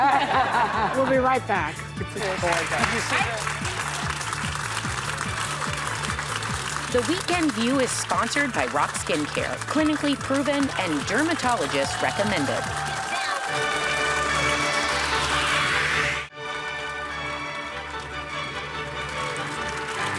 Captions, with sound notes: (laughing) We'll be right back. (audience applauding) The Weekend View is sponsored by Roc Skin Care, clinically proven and dermatologist recommended. (audience applauding) (dramatic music)